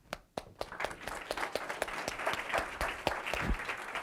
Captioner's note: audience applause